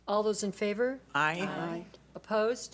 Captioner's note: board Members In Unison